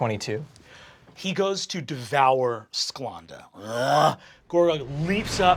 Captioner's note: growling; imitating sword impact